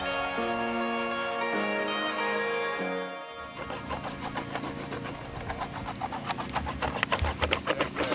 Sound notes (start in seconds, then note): 3.5 scratching on skateboard